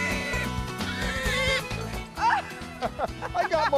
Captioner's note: both laughing